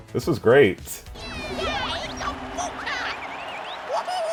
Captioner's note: non-english speech